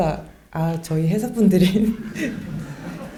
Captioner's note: laughs